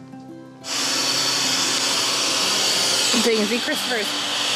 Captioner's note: dryer whirring